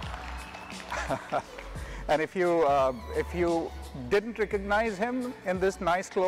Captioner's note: chuckles